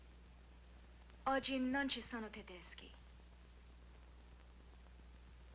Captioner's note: Maria speaking in Italian